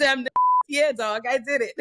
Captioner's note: beep